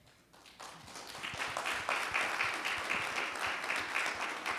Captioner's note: audience clapping